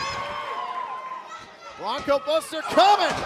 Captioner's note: cheers and applause